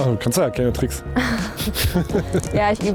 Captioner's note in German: lachen